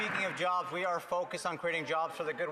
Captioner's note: some Applause